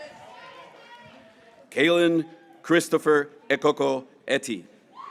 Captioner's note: graduates cheering